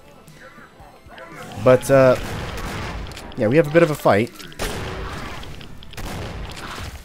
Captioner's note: Boomstick boomsticking